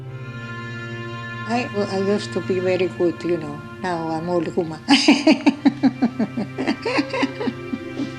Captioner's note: laughs